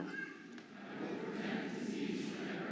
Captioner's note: audience repeats